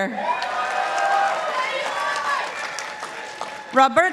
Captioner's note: participants applauding